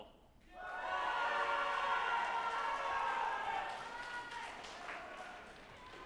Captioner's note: group applauding and cheering